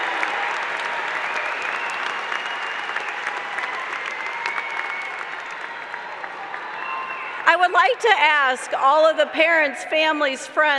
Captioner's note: applause